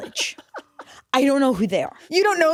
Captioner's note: laughs